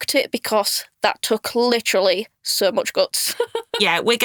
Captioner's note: chuckles